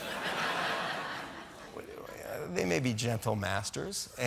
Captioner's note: laughter